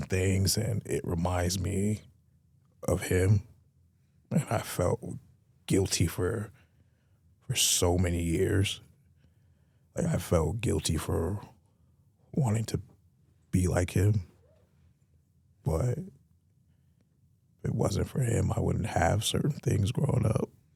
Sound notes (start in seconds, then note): none